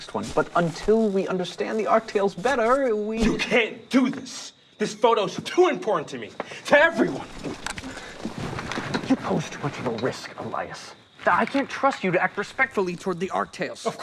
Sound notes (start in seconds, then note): none